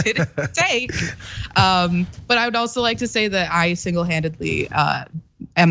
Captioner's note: laugh